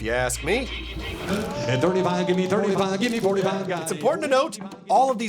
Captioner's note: rapid auctioneering